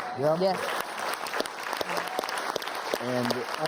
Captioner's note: applause